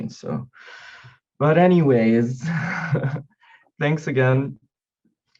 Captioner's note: chuckling